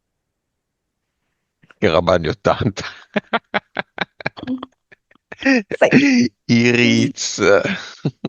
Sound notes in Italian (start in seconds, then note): 2.7 risate